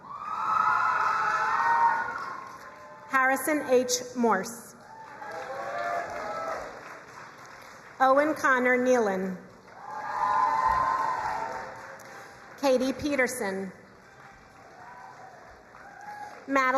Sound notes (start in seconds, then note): 0.0 crowd cheering and applauding; 4.8 crowd cheering and applauding; 9.5 crowd cheering and applauding; 13.8 crowd cheering and applauding